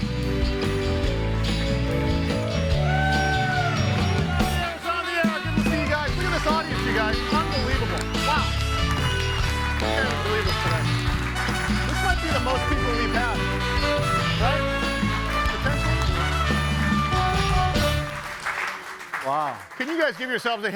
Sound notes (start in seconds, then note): 0.2 audience applauding; 0.2 bright music; 2.3 audience cheering; 8.7 audience applauding; 17.3 audience applauding